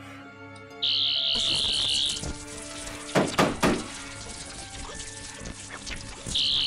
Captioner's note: electrical sounds; buzzing; buzzing; electrical sounds amplify